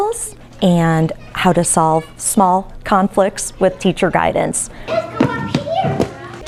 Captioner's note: tap